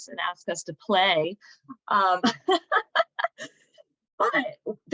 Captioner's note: laughter